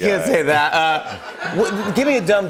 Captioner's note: laughter